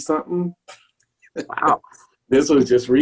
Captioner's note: laughs